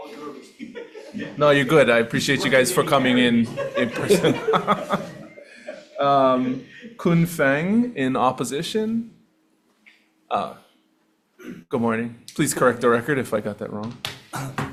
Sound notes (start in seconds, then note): 5.0 people laughing